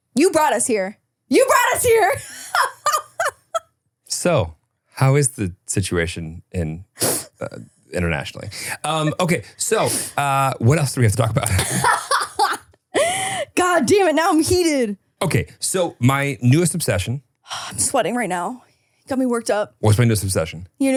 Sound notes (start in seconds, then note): 1.8 laughs; 11.3 laughs